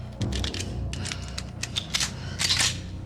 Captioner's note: heavy breathing, gun clicking repeatedly